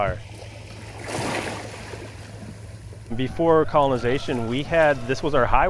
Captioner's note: waves crashing